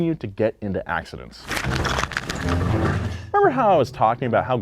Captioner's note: car crashing